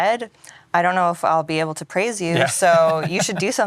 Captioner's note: laughs